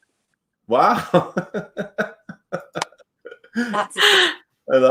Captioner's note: laughs